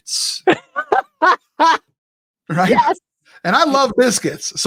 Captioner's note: laughing